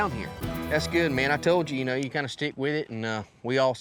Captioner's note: none